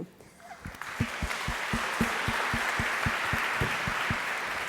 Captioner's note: audience applauding